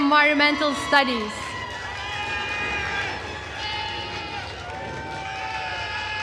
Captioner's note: attendees cheering and applauding